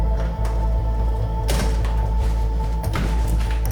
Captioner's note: door creaking; door slams; other door slams